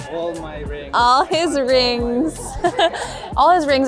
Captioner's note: laughs